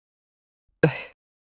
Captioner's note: sigh